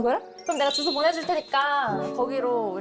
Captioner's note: acceptance sound effect